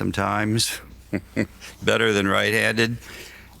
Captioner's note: laughs